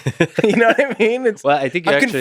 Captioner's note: Tim laughs